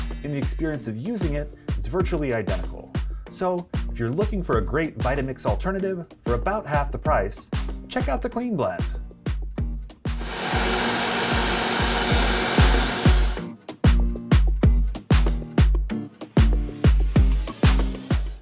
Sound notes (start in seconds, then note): 10.2 blender whining; 10.2 upbeat music